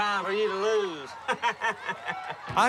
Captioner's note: laughing